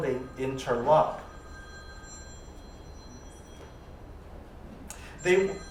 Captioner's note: telephone ringing